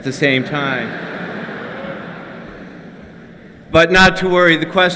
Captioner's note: laughter